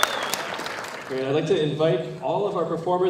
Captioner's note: applause